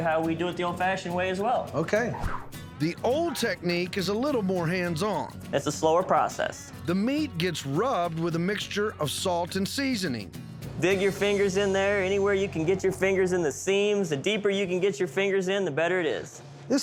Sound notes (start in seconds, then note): none